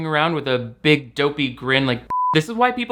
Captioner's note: beep